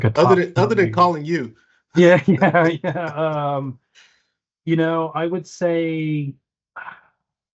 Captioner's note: laughs